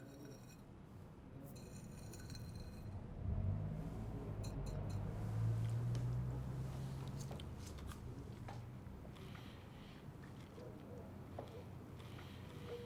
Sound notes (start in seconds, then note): 3.1 traffic humming